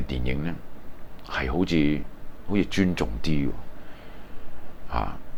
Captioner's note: Japanese